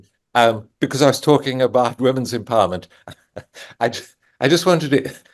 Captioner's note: chuckles